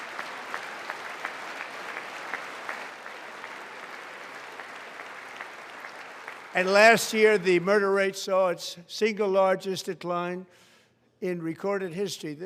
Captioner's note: applause